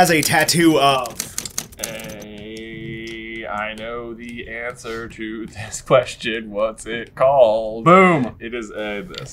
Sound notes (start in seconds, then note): 2.8 sing song